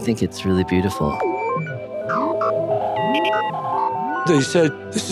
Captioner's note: dials and signals whirring